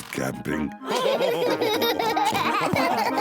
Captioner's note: all laugh